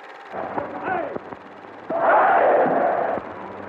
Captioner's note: chanting